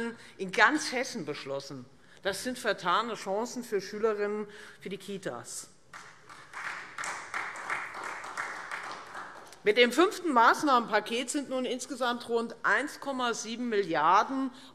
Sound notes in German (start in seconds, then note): 5.9 Beifall Freie Demokraten